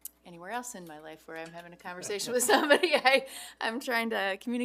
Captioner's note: laughs